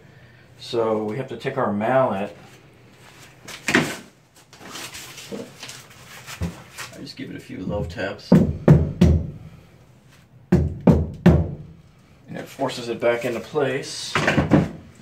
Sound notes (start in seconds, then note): 8.3 hammer tapping